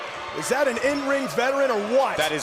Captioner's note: crowd cheering